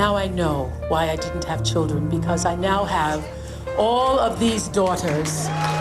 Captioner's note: cheering